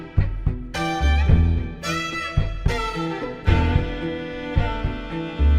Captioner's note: none